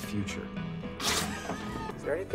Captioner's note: upbeat music continues; friends laughing